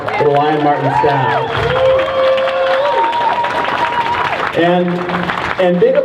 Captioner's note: crowd cheers